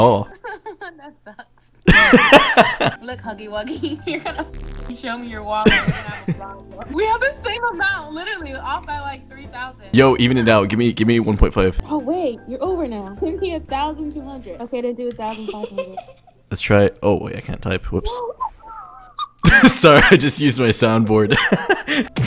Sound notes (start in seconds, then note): 15.4 laughter